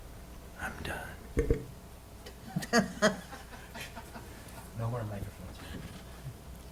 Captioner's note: laughter